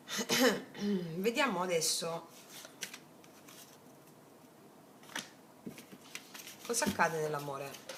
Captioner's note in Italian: schiarire la voce